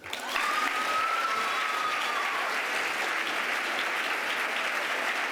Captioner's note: applause